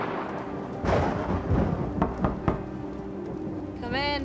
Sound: knocking on door

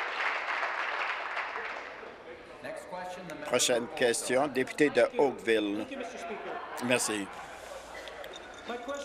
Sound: applause

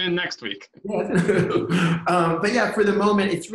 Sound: laughter

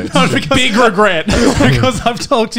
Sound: laughs

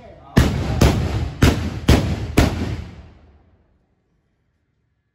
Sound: sound of Firecrackers

